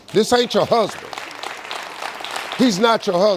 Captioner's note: audience claps